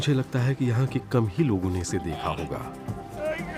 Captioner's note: strains